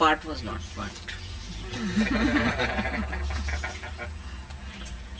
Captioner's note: laughter